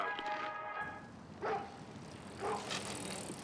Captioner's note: angus barking